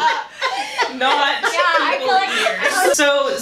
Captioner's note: laughter